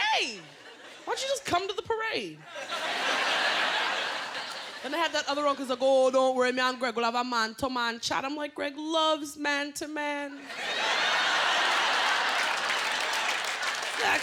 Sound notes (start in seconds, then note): 8.8 laughter